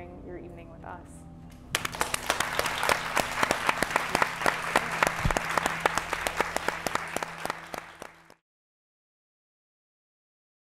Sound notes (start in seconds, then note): 1.7 applause